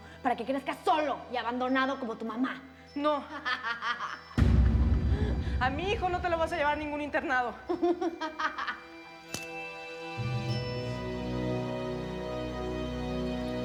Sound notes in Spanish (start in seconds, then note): 3.5 Carcajadas de Bárbara; 7.7 Carcajadas